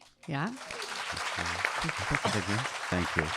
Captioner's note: audience clapping